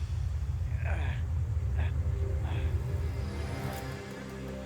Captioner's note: grunting